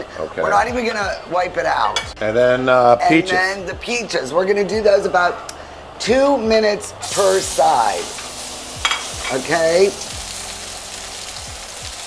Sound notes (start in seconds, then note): 7.0 pan sizzles